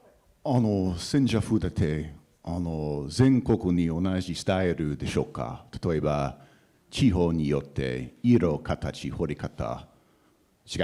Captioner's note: speaking japanese